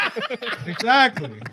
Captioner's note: laughing